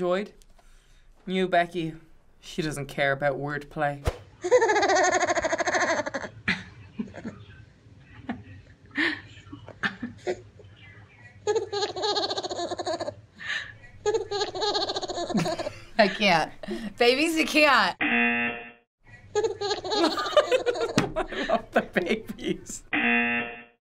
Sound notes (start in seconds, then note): 4.6 giggling; 6.5 mother chuckling; 11.4 baby giggling; 14.1 laughing; 18.0 buzzer; 19.6 laughing; 22.9 buzzer